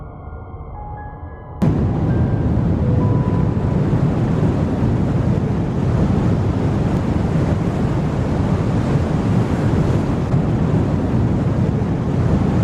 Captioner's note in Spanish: Sonido de Mochila Propulsora